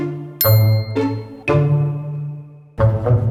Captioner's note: bell chimes